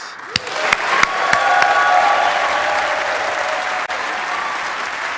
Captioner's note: audience applauding; audience cheering